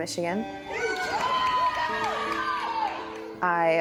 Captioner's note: crowd cheering